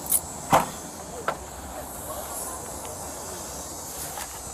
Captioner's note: keys jingle; trunk door clicks open